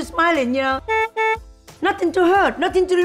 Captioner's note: car honks